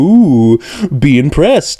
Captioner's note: inhale